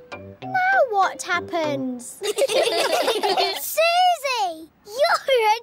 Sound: all giggling

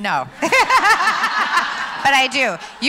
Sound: laughs

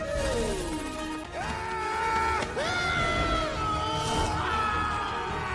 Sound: battle cry; screaming

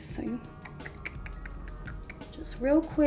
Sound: clicks tongue

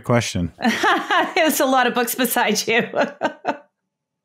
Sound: laughs

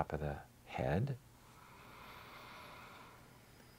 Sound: inhalation sounds

